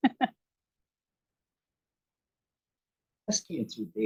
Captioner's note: chuckles